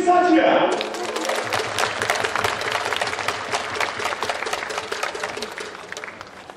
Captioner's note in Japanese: 拍手